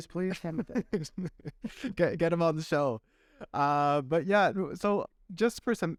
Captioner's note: laughter